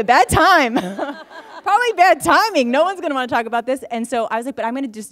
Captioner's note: laughter